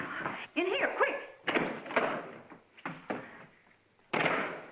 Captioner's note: heavy door opens; heavy door closes